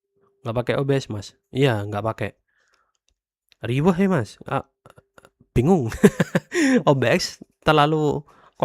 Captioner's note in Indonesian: tertawa